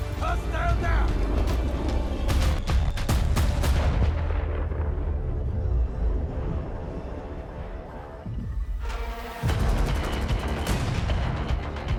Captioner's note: gunfire